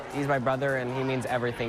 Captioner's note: cheering and applause